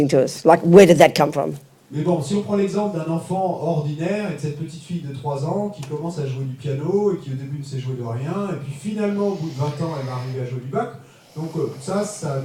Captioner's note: French